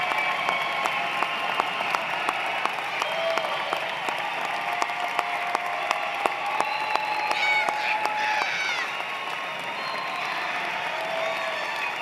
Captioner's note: cheers and Applause